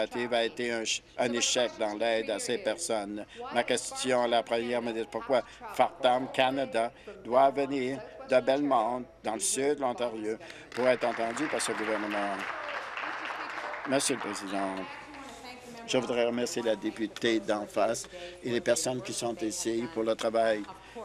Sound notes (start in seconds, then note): 13.8 applause